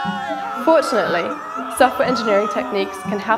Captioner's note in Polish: Krzyki